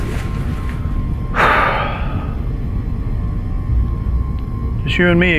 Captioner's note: Hawk exhales